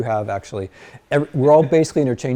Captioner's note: students chuckle